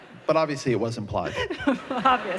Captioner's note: laughter